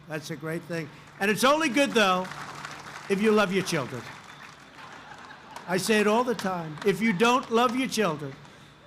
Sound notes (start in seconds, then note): 0.2 applause; 4.8 laughter